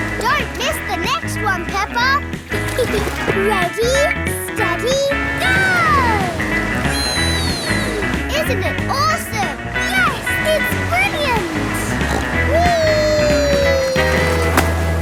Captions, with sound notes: Don't miss the next one, Peppa! (GIGGLES) Ready, steady... Go! Whee! Isn't it awesome? Yes! It's brilliant! (SNORTS) Whee!